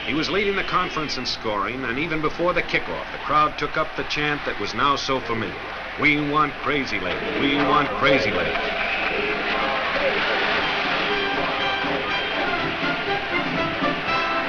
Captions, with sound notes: He was leading the conference in scoring, and even before the kickoff, the crowd took up the chant that was now so familiar. "We want Crazylegs! We want Crazylegs!" (crowd chants "We want Crazylegs!")